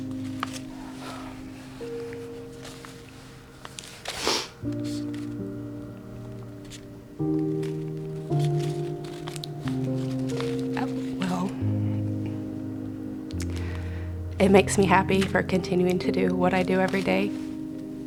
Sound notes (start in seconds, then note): 4.1 snuffles